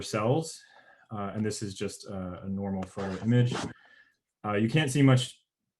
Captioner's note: murmurs